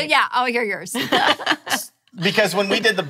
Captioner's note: laughing